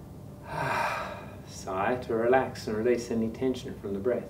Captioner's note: sighs